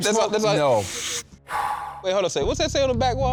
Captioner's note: puffs